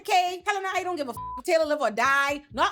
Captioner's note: beep